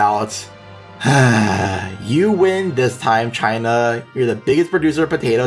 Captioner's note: sigh